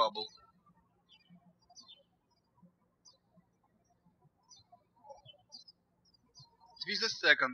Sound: birds chirping

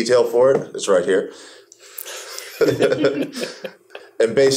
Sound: laughing

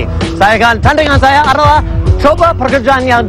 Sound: speaking indonesian

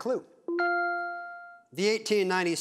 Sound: bell dings

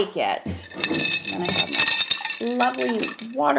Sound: brushes clang

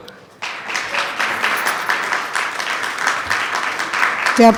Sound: attendees clapping

